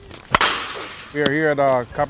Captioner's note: ball thuds